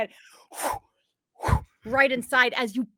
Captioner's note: axes swing